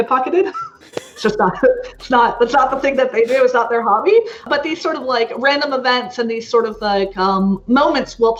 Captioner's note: laughs